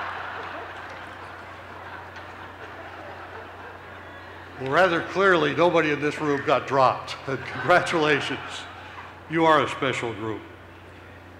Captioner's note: laughter